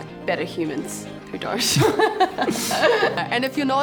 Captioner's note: laughs